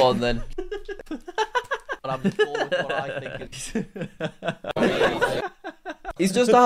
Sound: video laughs

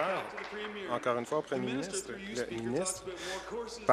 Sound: applause

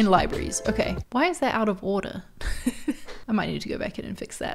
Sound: chuckles

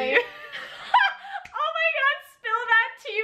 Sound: both laughing

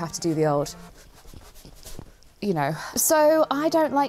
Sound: shuffling

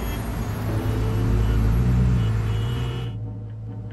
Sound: honking and traffic sounds

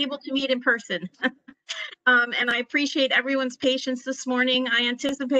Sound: laughter

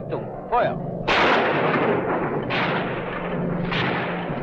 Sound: guns firing

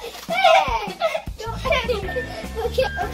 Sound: laughs

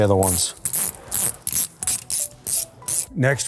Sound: tool clicking

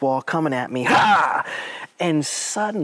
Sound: yells

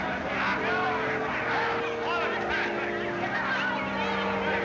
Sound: indistinct chatter

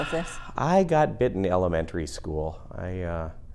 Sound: sighs

